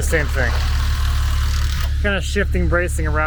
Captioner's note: machine buzzing